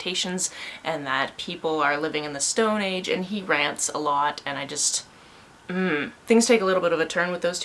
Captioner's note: annoyed sound